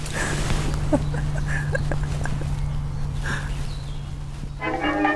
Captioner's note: quiet chuckling